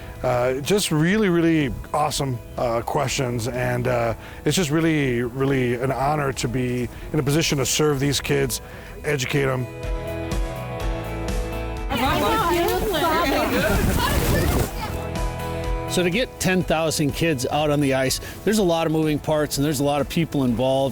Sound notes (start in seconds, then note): 11.9 kids chattering